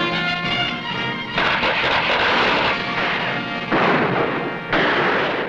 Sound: tense music; gunshots blasting

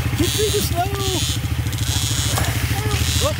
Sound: motorbike engine humming

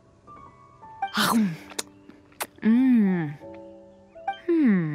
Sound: nom nom

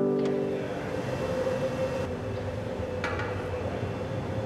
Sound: fire roars

